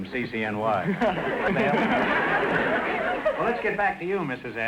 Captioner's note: audience laughter